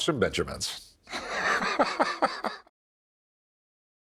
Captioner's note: laughter